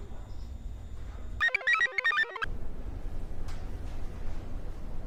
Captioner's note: computer chirps